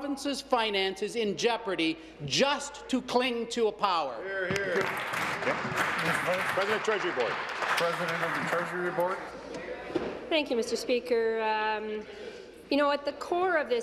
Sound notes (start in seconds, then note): 7.4 applause